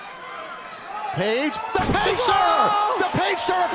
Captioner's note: crowd chatter